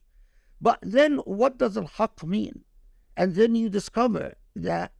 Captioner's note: speaking Arabic